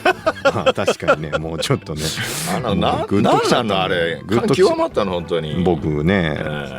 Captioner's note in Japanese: 笑い